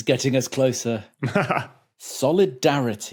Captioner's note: chuckles